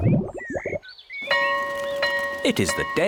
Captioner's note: tummy rumbles; school bell rings